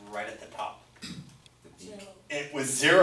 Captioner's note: voiceover